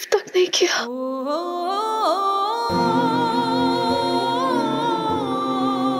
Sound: emotional vocalising

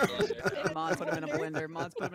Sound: laughing

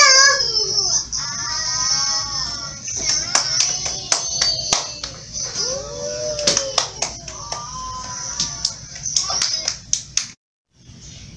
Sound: applausing

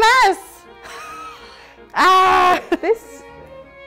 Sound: frustrated groaning

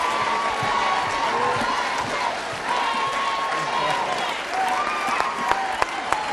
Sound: crowd chanting

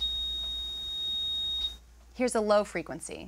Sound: high-pitched tone

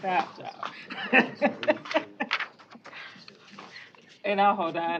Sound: laughter

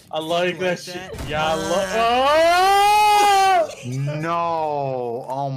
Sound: laughs

